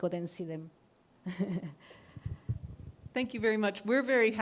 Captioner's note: laughter